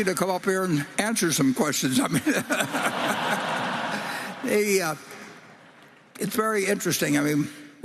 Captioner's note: applause